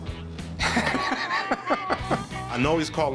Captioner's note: laughs